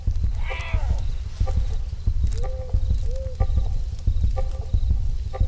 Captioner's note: panther growling; heart beating; suspenseful music